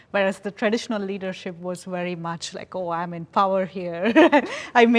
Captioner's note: laughs